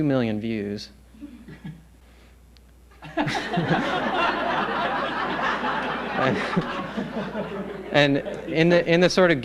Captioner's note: laughter